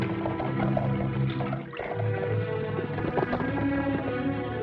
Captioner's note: horse galloping